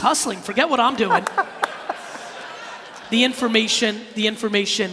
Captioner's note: laughing